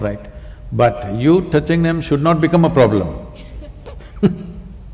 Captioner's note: laughs